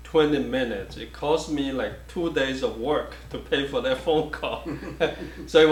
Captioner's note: chuckles